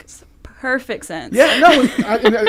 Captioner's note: laughing